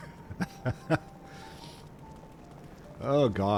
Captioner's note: laughs